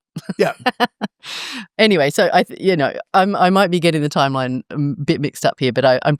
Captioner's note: laugh